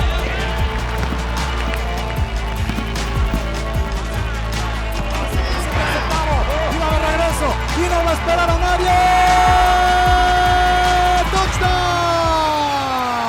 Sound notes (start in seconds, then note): 5.8 Spanish